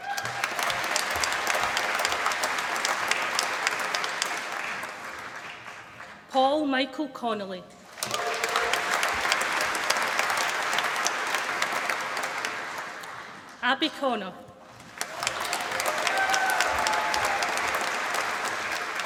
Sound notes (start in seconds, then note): 0.0 applause; 7.8 applause